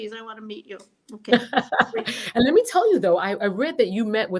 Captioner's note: chuckles